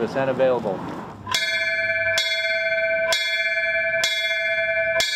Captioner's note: bell ringing